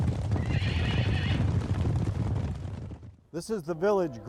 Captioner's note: horses gallop